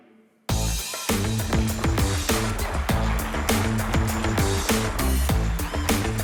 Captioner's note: applause